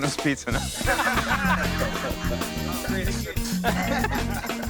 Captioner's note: laughter